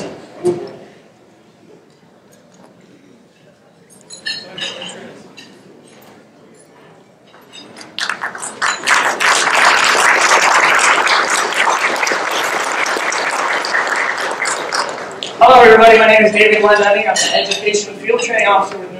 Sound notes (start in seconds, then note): 8.0 clapping